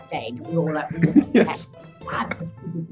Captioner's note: laughing drowns out voice